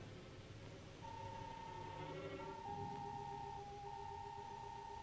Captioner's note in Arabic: صافرة إلكترونية